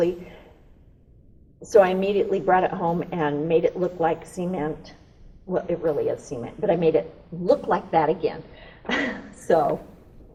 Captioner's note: laughs